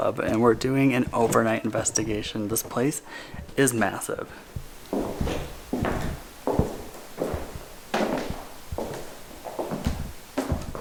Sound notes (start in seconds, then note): 4.4 footsteps